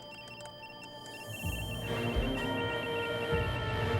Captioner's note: alarm